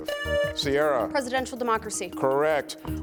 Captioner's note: buzzer buzzing